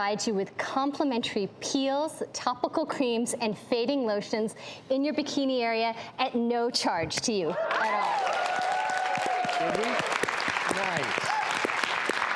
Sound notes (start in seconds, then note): 7.7 audience applauding